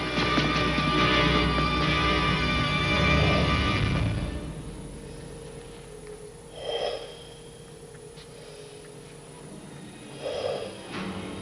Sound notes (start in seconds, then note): 0.1 deep breathing; 8.2 deep breathing